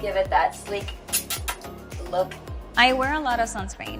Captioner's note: kissing noise